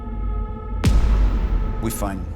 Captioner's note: explosive bang